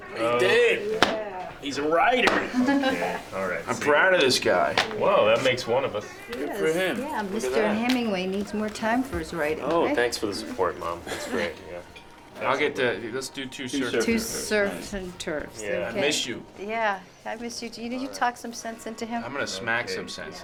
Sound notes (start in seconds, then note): 0.0 laughs